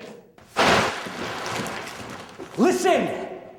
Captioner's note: plastic rustles